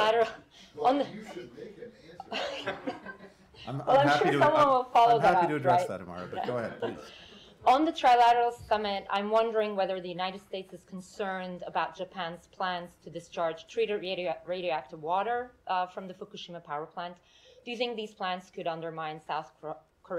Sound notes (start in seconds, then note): 1.0 laughter